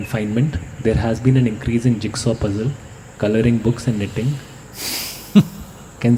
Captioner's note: laugh